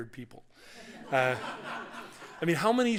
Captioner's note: laughter